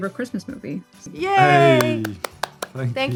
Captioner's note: claps